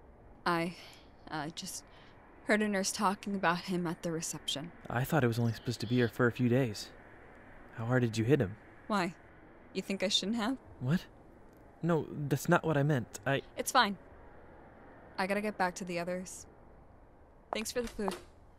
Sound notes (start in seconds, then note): none